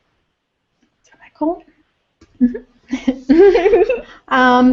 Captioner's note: laugh